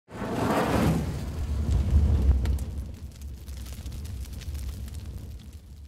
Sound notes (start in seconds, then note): 0.2 fire crackling